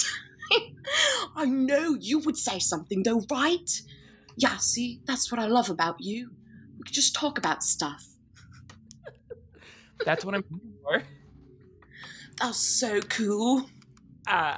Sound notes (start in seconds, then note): 0.2 laughs; 8.9 laughing